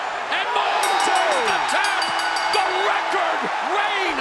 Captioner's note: bell rings